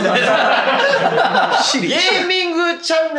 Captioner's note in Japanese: 一同笑い